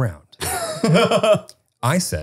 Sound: laughs

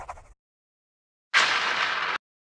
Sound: highly compressed explosion.mp3

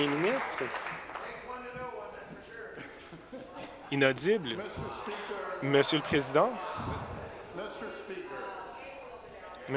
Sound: applause

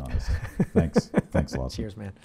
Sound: laughs

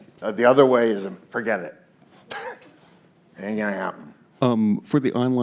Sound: scoffs

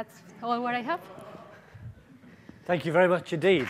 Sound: laughing

